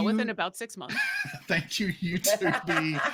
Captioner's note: people chuckling